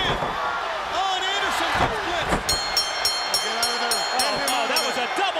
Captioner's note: bell ringing